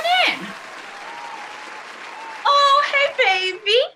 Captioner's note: applause